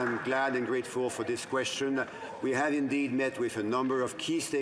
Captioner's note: some Applause